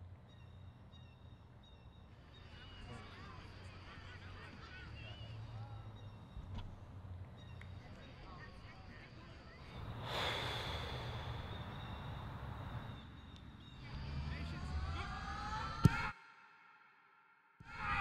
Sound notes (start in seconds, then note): 9.9 deep breath